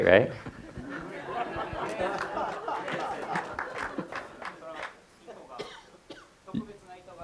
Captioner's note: audience laughter and light applause